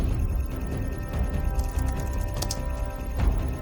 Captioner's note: keyboard clacking continues